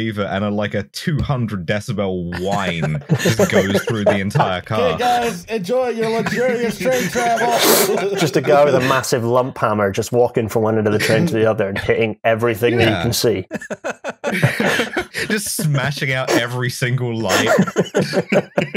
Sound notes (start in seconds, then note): 2.7 laughs; 4.8 shouting; 5.9 laughter; 13.4 laughter